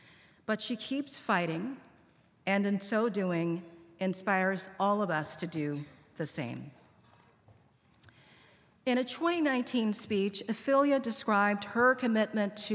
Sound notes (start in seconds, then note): none